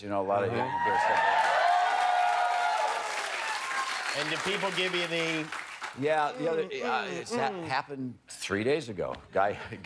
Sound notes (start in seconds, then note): 5.6 cheers and applause